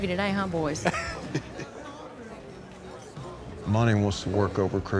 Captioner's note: laughs